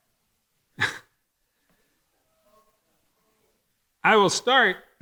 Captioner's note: chuckles